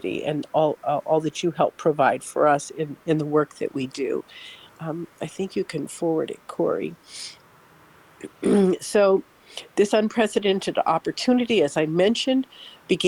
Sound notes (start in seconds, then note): 7.8 clears throat